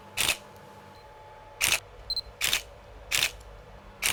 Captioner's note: camera clicking